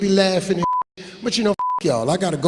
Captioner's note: beeping